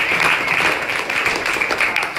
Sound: clapping

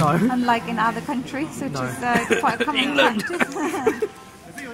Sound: sudden bouts of uncontrollable cough

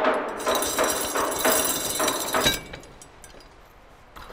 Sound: chain clinking

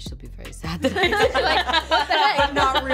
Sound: laughing

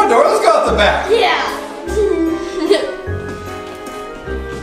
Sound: giggles

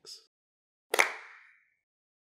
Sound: clap

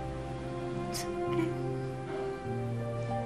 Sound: sobs

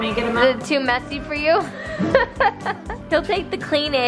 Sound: laughs

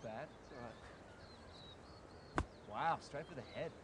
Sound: birds chirping

